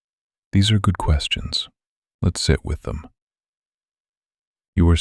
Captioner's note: calm and unhurried